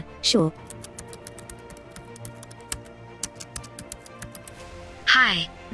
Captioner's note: keyboard sounds